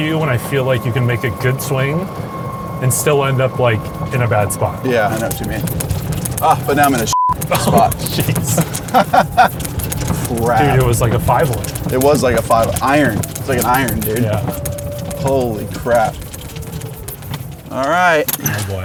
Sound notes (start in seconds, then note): 9.9 laugh